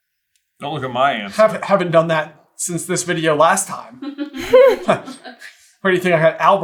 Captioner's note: team laughter